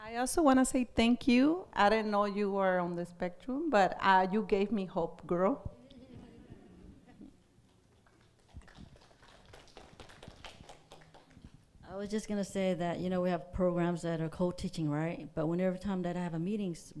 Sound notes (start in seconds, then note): 6.0 audience laughs